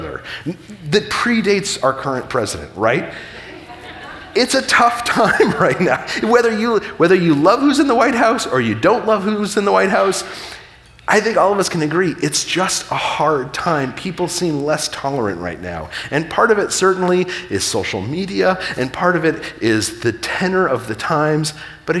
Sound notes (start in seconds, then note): 3.1 audience laughing